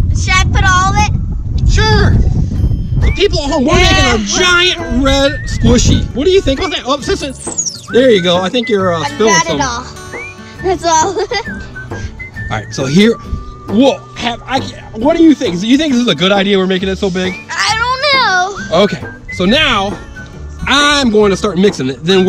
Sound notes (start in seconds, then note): 7.6 food coloring bottle squeaks; 11.0 giggles